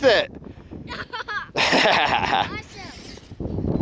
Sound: laughing

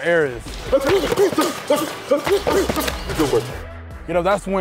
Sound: grunting; pads thudding

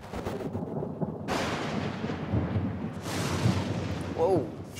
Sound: thunder

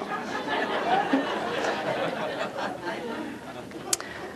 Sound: laughter

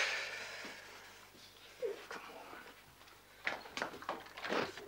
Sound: Charlie sighs; Sandra cries

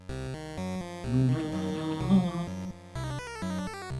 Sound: humming along

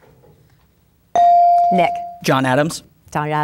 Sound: bell dinging

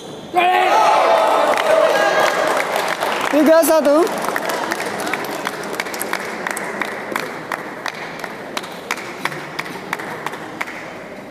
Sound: applause

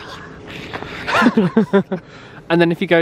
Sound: laughs

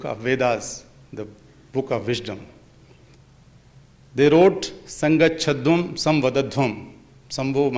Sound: speaks in Sanskrit

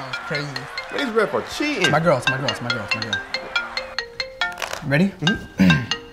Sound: phone ringing

